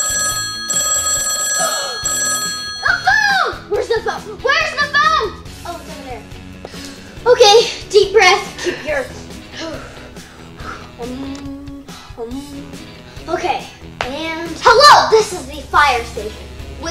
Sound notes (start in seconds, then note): 0.0 phone rings; 1.7 gasps; 9.5 breaths